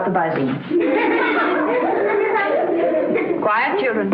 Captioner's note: laughter